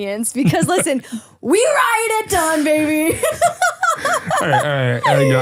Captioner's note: laughs